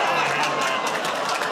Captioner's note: audience "Oh"s